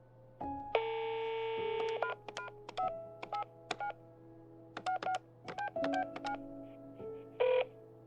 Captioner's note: phone dials